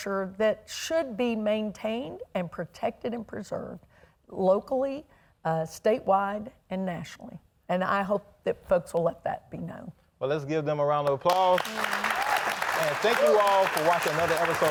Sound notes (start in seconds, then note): 11.1 audience applauding